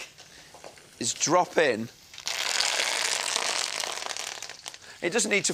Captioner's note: kale sizzling